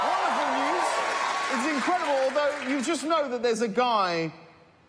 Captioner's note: applause